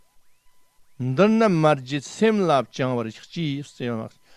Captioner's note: tibetan